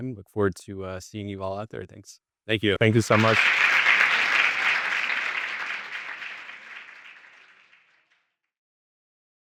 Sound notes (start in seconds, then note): 3.0 audience applauds